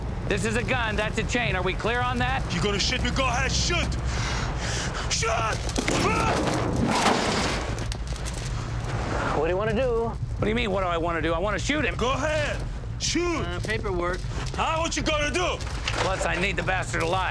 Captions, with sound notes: this is a gun, that's a chain. are we clear on that? - You gonna shoot me? Go ahead. Shoot! (breathing heavily) Shoot! (grunting) - What do you wanna do? - What do you mean, what do I wanna do? I wanna shoot him. - Go ahead! Shoot! - Eh, paperwork. - Huh? Whatcha gonna do? - Plus, I need the bastard alive.